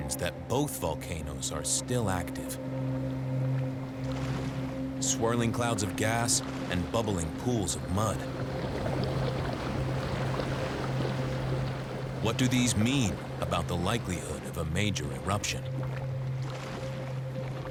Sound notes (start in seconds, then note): 8.4 bubbling